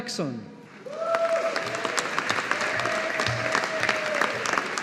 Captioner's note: audience applauding